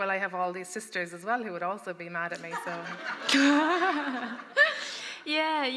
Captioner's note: laughter